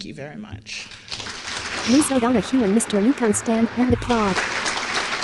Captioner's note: applause